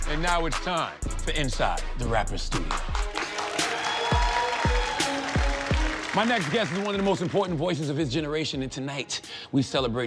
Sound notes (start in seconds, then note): 2.9 audience clapping; 3.0 hip hop instrumental music